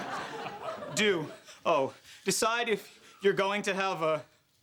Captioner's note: stammering